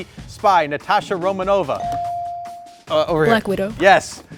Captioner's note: buzzer dings